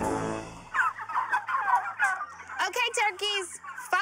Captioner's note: gobbling